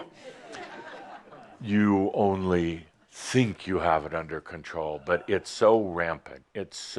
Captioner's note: some chuckles